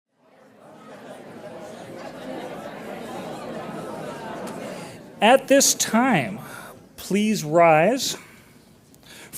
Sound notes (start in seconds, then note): 0.2 audience murmuring